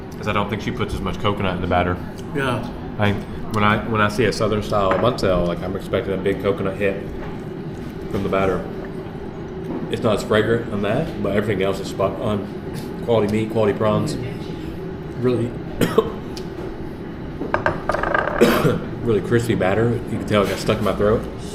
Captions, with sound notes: I don't think she puts as much coconut in the batter Yeah When I- When I see a southern style Banh Xeo Like I'm expecting a big coconut hit- from the batter It's not as fragrant on that But everything else is spot on Quality meat, quality prawns Really- [choking] [cough] Really crispy batter You can tell it got stuck on my throat